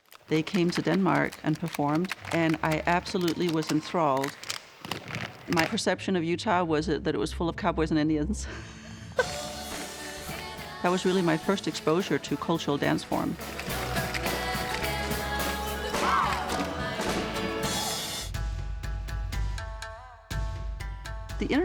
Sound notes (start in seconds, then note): 9.1 laughs; 14.7 folk music; 18.7 exotic music